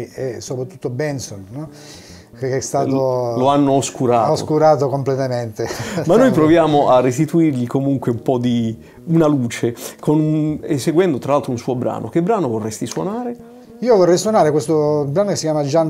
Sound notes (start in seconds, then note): 5.6 laughs